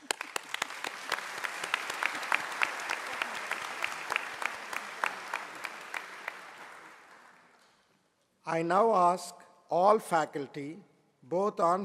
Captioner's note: applause